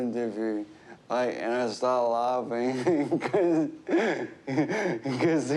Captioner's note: chuckles